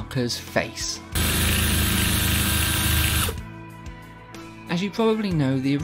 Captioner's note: loud Drilling